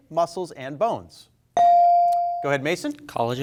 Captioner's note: bell rings